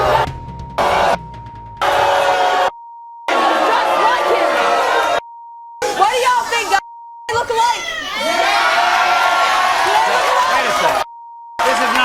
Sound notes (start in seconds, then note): 0.1 audience booing; 10.1 audience cheering